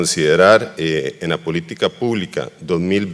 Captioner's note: speaking foreign language